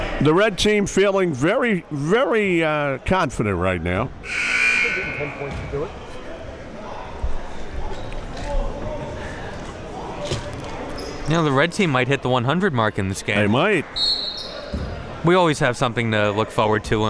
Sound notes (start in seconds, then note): 4.2 buzzer dings; 13.9 whistle blows